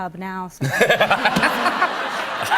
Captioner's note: laughter